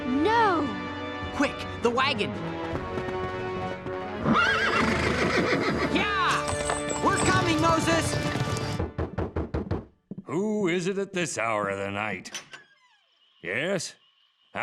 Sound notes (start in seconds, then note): 4.2 neighing